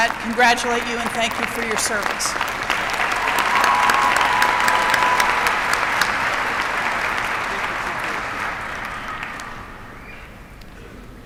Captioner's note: applause